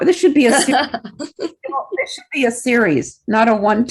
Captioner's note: laughs